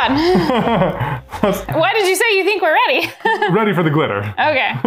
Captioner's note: laughs; laughs